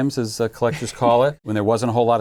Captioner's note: laughing